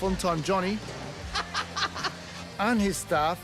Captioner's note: laughs